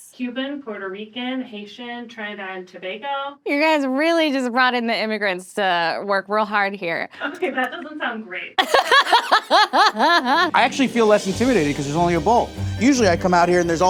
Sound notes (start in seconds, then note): 8.6 laughing